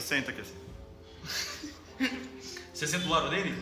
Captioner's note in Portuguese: risos